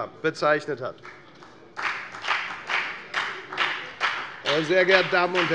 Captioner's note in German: Beifall bei der FDP